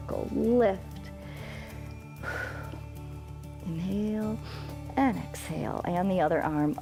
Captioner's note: inhales and exhales